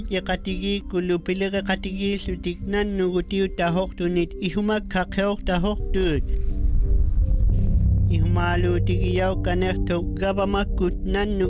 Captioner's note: speaking inuktitut